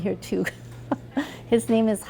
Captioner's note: chuckles